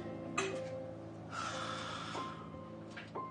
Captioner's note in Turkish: Burak nefes verir